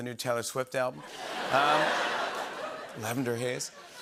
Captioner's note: laughter